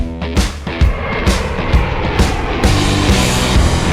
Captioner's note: airplane Jet Engine